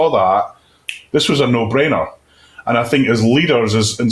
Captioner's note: clicks fingers